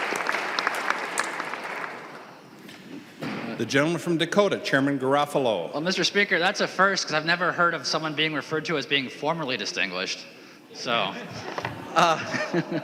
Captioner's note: applause